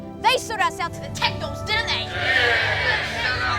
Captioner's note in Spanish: gritando de acuerdo